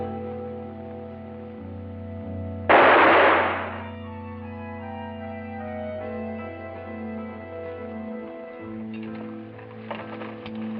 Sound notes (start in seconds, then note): 2.7 gunshot